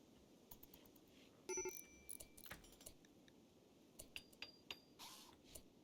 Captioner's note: phone beeps